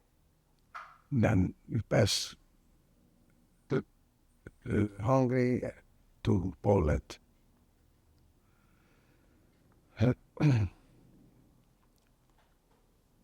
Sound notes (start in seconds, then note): 7.5 pauses 10 seconds